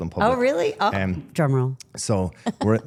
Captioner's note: laughing